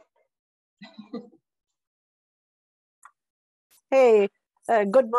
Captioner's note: laughing